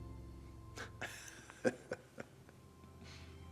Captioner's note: laughs